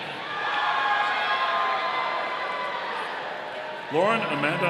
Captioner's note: audience cheering